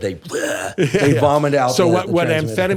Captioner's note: makes vomiting sound; laughs